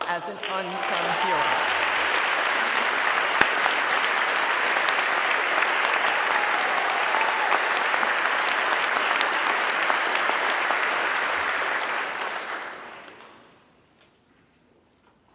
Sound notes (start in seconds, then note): 1.5 everybody clapping